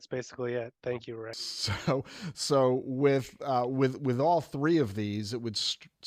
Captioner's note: laughter